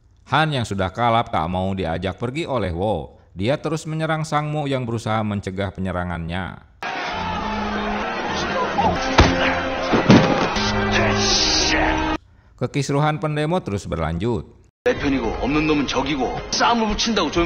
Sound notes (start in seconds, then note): 6.8 applause